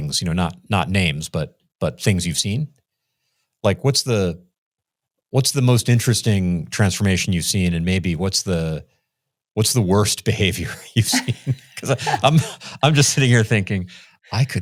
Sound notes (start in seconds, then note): 10.9 laughs